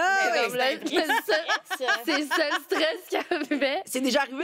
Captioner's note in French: rires